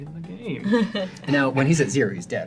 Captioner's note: all laugh